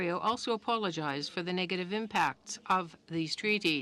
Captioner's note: speaking french